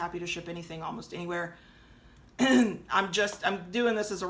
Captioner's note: clears throat